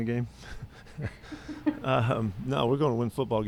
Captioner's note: laughs